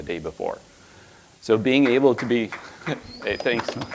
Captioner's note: audience applauding